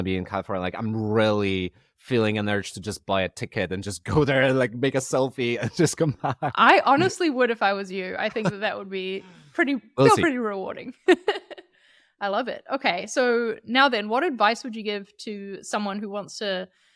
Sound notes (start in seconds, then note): 5.5 laughing; 10.0 laughing